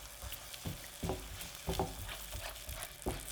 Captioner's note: sizzling